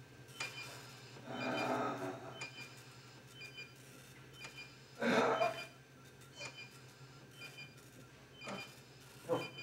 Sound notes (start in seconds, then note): 1.3 Donald groaning